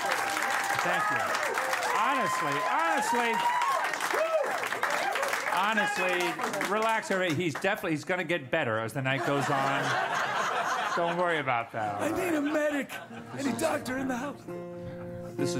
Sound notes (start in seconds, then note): 3.8 cheers and applause; 9.1 laughter; 11.7 in frail, scratchy voice